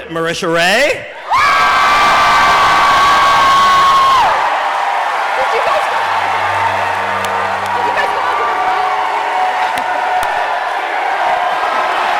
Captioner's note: cheering and chanting "Keyleth"